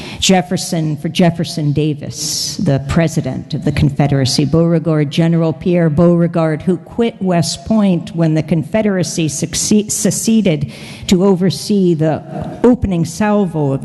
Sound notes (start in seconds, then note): none